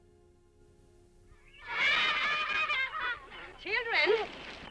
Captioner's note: children laughing